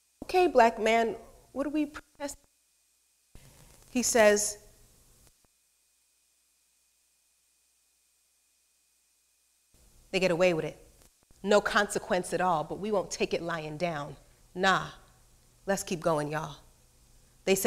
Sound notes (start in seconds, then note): 2.5 speaks faintly; 4.9 speaks off microphone